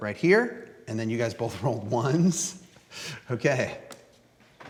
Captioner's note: laughs